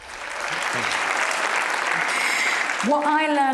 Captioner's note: applause